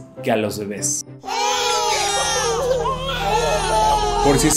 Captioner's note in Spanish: lloriqueos de muchos bebés